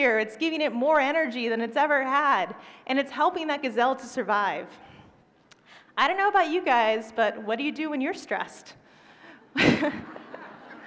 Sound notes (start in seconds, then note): 9.5 laughter